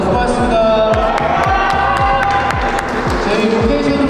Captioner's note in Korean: 와아~